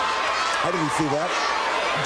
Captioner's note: crowd chatter